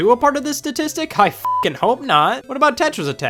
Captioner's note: beep